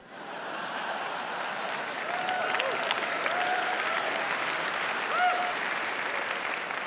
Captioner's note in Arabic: ضحك; تصفيق